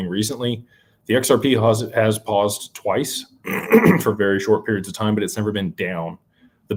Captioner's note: clears throat